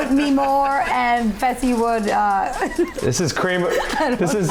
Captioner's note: laughing